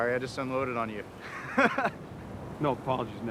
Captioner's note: nervous laugh